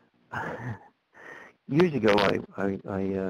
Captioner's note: chuckles